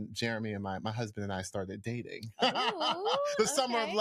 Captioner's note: laughs